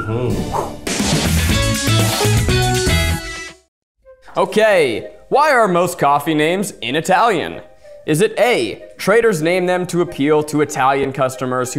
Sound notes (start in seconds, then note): 0.7 makes whoosh noise; 1.5 bright guitar transition